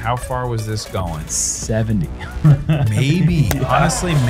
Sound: chuckles

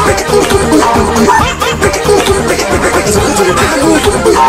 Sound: bork!! bork!!

